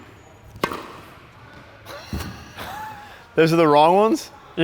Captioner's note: racket hits